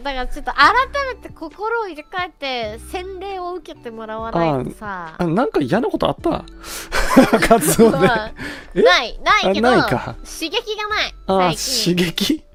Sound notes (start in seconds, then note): 6.9 laughs